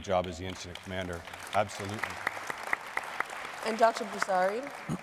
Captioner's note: audience applauding